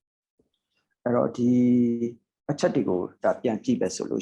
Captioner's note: speaking burmese